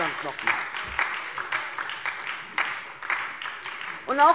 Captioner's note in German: Beifall DIE LINKE und vereinzelt SPD